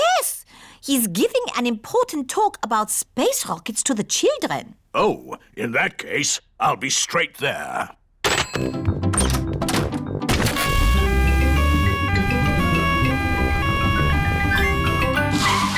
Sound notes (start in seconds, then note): 10.6 siren wailing